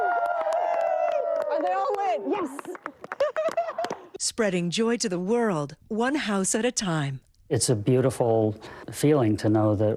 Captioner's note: cheering